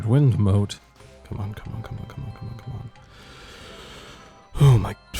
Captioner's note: deep inhale